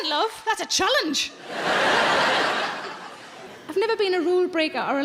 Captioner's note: audience laughs